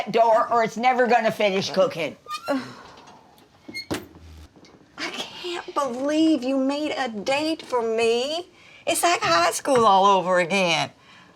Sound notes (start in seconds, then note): 2.4 Dory exhales; 4.3 oven door closes